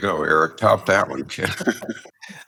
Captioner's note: laugh